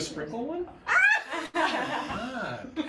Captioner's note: laugh